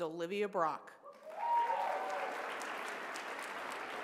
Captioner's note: applause